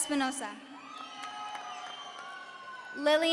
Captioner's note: audience cheering